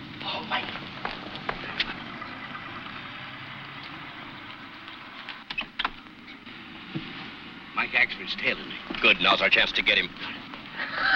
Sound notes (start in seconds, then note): 5.4 door opening